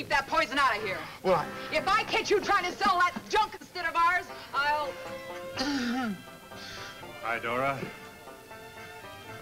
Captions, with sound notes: to keep that poison out of here! - Well, I- - If I catch you trying to sell that junk instead of ours, I'll (speaker trails off). - Hi, Dora.